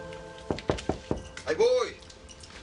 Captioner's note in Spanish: Toques en la puerta